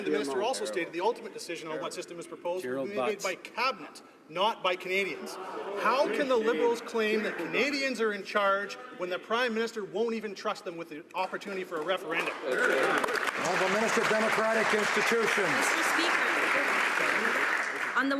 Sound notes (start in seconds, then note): 16.1 some Applause